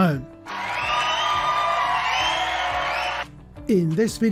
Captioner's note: cheering